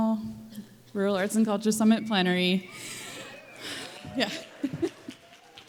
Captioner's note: applause